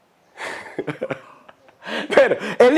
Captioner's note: chuckles